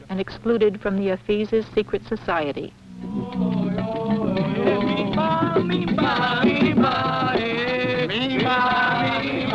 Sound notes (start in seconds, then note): 2.9 chanting